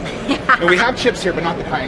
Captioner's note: laughs